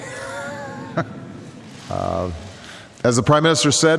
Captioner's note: laughter